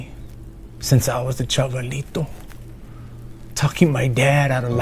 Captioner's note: speaks Spanish